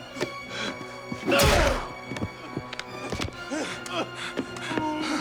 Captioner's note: tense music continues; kick thudding